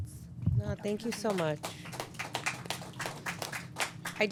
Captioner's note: applause